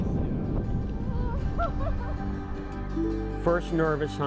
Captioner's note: laughs